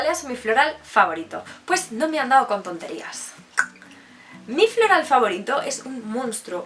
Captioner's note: clicking my tongue